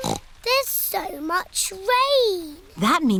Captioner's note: snorts